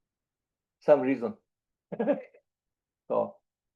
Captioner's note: laughs